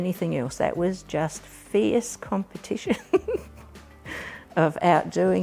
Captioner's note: chuckles